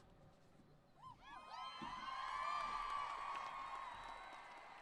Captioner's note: cheering